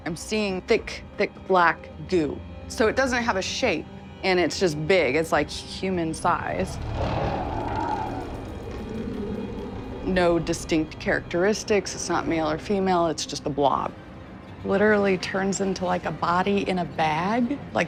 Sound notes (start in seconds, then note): 6.2 growling